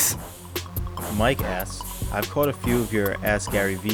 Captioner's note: voiceover